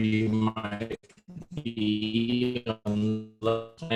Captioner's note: robotic sounds